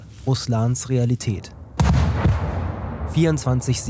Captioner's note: dull crashing